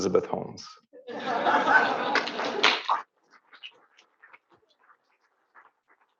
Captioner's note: audience laughs and applauds